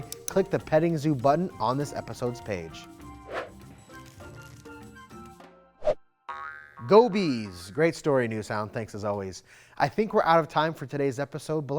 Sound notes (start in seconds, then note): 3.2 air whooshes; 3.6 bright music; 6.2 air whooshes; 6.3 globe boinging